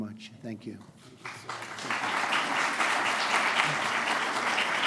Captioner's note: applause